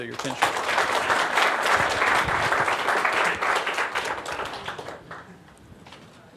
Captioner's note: applause